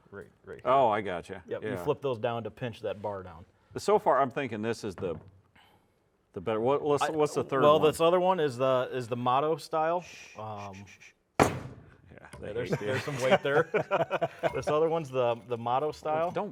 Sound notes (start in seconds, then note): 10.5 shushing; 11.4 part thudding